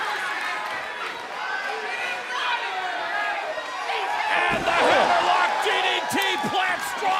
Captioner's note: cheers and applause